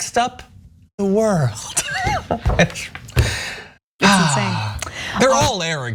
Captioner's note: laugh